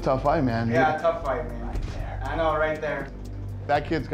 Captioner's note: whispering